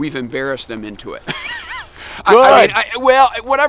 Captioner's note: chuckling